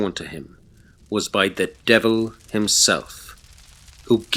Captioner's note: flames Crackling